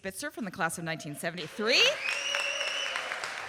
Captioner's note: audience cheering and applauding